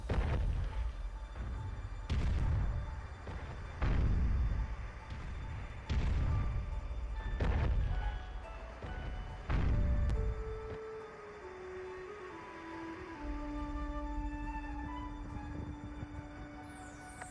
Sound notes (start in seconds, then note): 0.1 footsteps stomping; 7.9 soft music plays; 14.4 wind blows